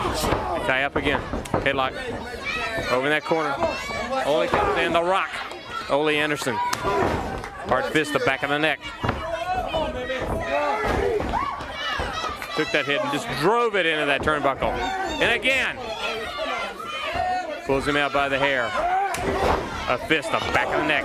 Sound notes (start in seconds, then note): 8.6 crowd chatter; 14.9 crowd chatter